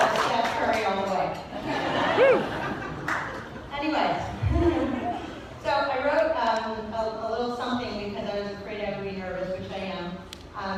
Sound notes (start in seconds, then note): 1.5 laughter